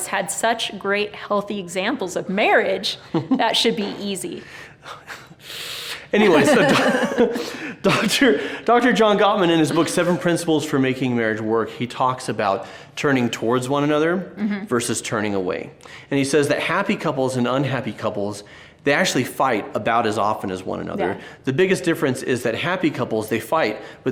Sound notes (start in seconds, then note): 6.2 laughing; 6.2 both laughing amusingly